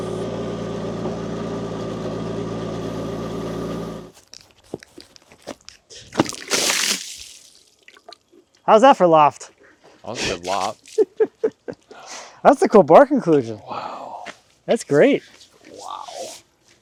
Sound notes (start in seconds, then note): 6.1 water splashing; 10.8 chuckles